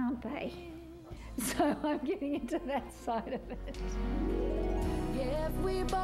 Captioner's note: laughing